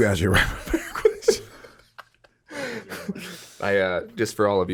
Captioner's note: laughs